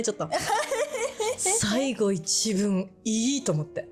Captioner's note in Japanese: 笑い